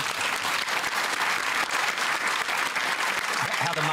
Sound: applause

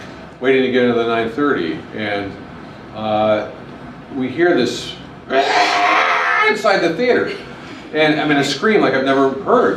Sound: screams

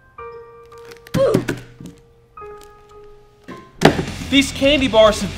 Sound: candy bar falling

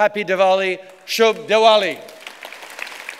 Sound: applause

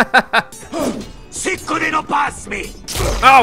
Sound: laughs; speaks foreign language

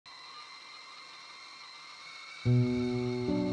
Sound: kettle whistling

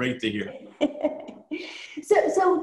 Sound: laughs

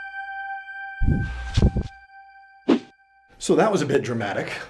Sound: suspenseful music; whooshing

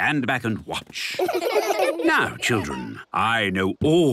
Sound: laughter

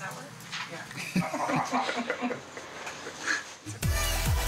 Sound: laughter

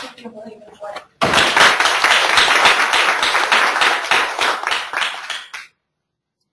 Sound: audience clapping

